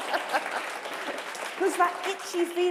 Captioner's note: applause